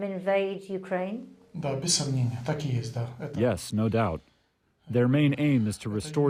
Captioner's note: through translator